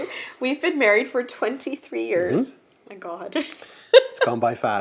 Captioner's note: laughs